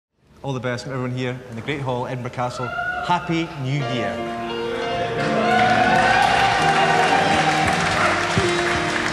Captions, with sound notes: - All the best from everyone here in the Great Hall, Edinburgh Castle. (audience cheering) Happy New Year. (gentle instrumental music) (audience applauding)